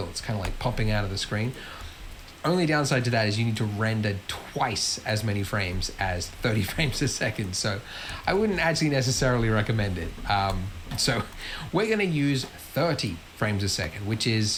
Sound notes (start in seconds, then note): 7.6 laughs